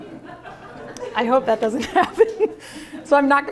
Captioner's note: laughter